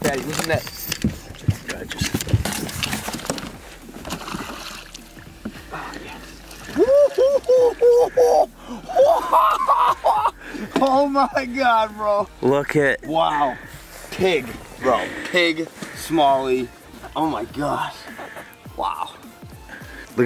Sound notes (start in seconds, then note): 3.9 splash; 6.8 excited cheering